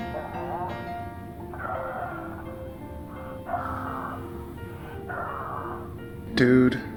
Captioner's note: breathy; the caller groans repeatedly